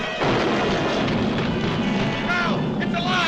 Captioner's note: tail thuds